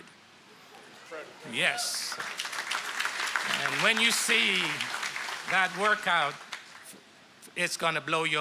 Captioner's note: applause